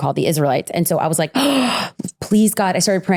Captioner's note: gasps